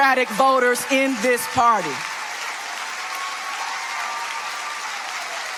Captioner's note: audience applauding